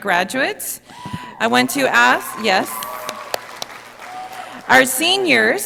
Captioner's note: audience applauding